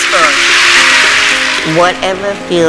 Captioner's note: applause